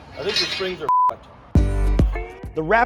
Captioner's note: beep